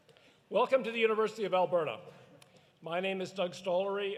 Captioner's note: none